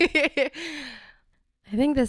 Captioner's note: laughs